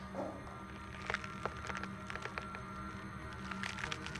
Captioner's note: bones cracking